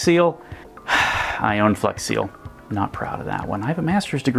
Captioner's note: sighs